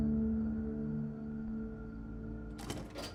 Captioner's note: door opening